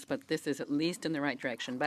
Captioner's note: speaking French